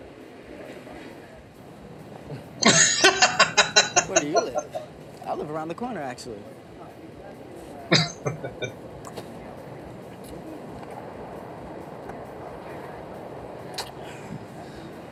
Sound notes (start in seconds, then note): 2.3 laughing; 7.9 chuckling